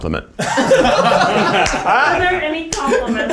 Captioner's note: all laughing